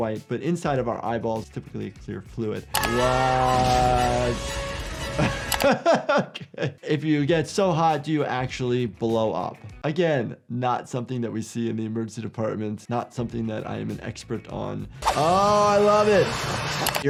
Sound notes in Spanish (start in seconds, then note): 2.8 hombres gritando; 5.1 Risas